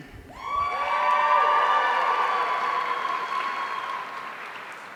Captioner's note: audience cheering